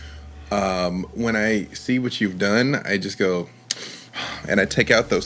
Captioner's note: exhaling